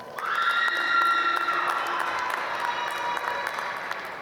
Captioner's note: applause